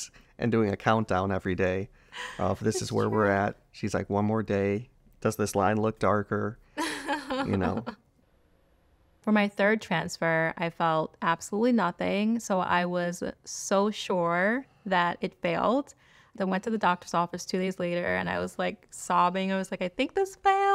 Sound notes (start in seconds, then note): 6.8 laughter